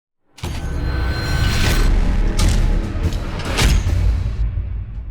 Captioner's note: heavy slamming effects